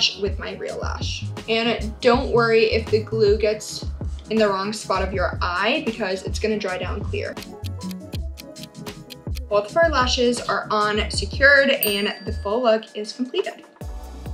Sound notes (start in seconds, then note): 9.0 clock ticking